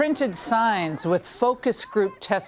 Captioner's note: shouting